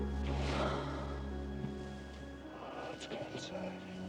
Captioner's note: Kate sighs